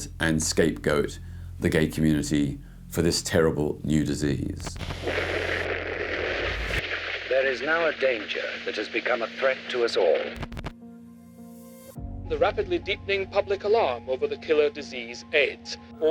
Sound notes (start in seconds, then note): 4.6 TV static crackles; 11.3 dramatic music